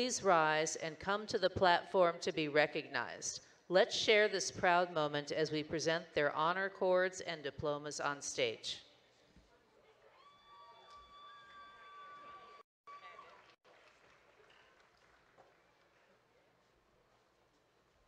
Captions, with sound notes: Please rise and come to the platform to be recognized. Let's share this proud moment as we present their honor chords and diplomas on stage. (audience cheering and clapping)